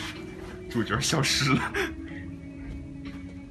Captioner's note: laughs